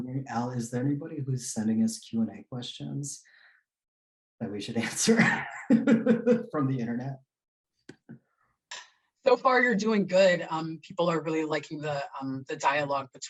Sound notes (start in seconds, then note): 4.8 laughing